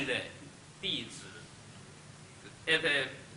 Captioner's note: speaks Chinese